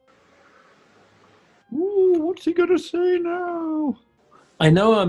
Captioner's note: high pitched